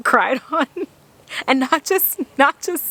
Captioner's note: laughs